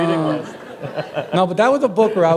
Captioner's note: chuckle